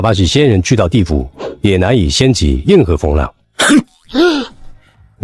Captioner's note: disdainful snort